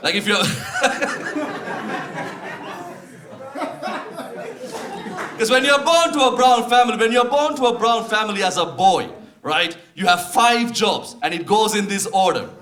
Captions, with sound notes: Like if you're... [Audience laughs] Because when you're born to a brown family, when you're born to a brown family as a boy, right, you have five jobs, and it goes in this order.